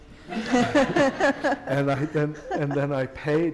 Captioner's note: laughter